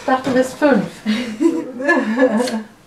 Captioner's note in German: Lachen